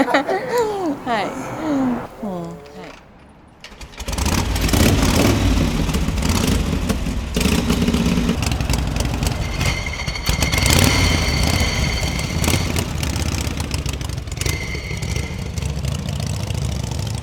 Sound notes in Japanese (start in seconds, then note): 0.0 笑い声; 4.2 エンジン音